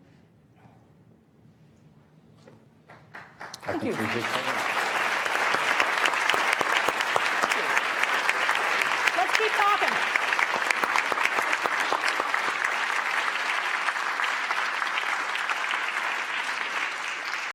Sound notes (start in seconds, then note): 5.3 applause